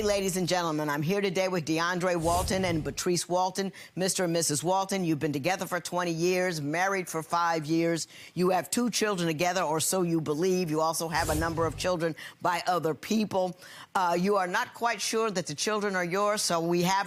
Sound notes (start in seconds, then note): none